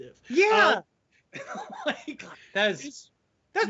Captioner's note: laughing loudly